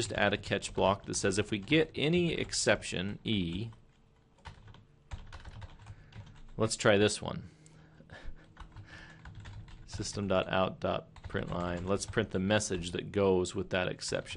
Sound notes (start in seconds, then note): 7.6 chuckle